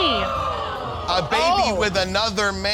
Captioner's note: audience gasps